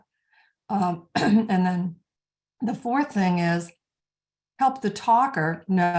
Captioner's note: clearing throat